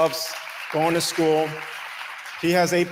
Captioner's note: audience applauding